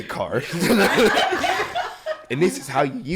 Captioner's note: all laughing